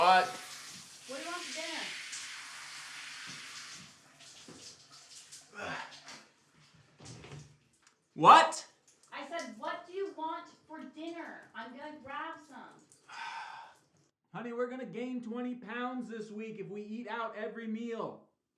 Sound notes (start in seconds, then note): 5.5 Isaac grunts; 13.0 sighs